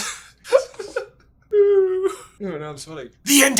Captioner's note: still cracking up